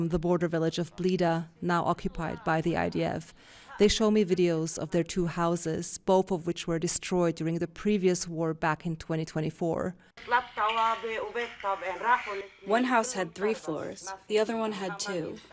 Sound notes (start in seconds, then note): 13.4 through translator